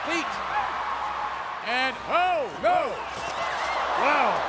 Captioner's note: applause